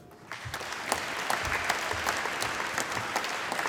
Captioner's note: applause